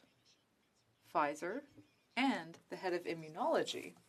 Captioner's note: speaking French